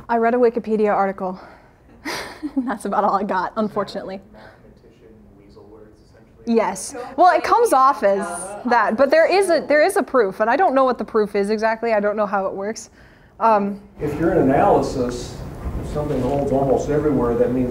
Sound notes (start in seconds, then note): 2.0 laughs